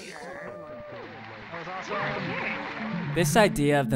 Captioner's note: crowd cheering